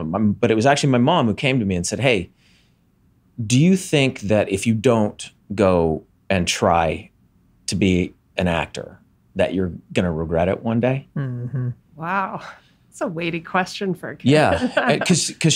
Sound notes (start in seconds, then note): 11.2 chuckles; 14.4 laughs